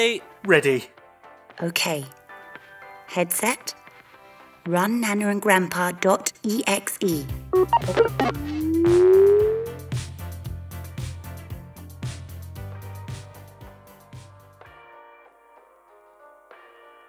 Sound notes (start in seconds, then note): 11.1 COMPUTER SOUNDS Beep Bop Boob